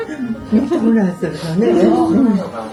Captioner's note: laughs